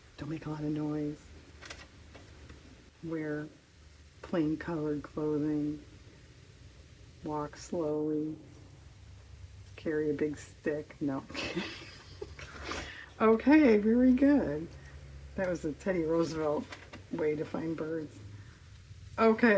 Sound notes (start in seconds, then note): 11.3 laughs